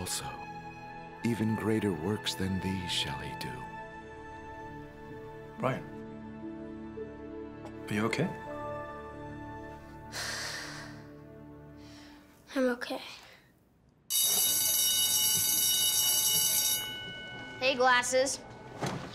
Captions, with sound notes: Even greater works than these shall he do. -Brian. Are you okay? [exhale] -I'm okay. [school bell rings] -Hey glasses.